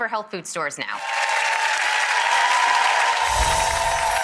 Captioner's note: applauding